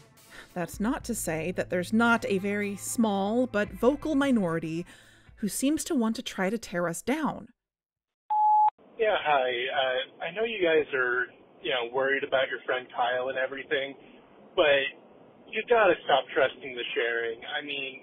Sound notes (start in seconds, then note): 7.5 music stops; 8.3 beep